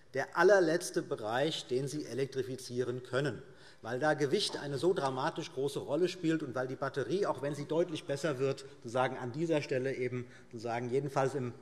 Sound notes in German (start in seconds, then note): none